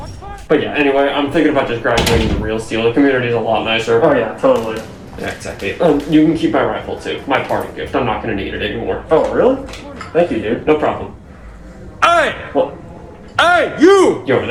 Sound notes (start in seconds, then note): 2.9 door closes